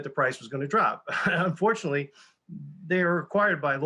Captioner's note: chuckles